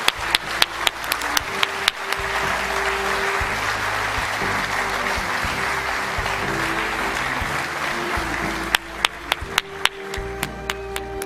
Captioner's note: applause